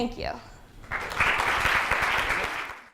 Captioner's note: audience applause